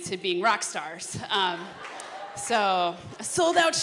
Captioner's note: laughter